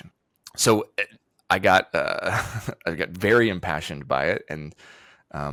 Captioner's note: chuckles